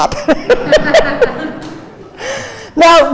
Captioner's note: crowd laughing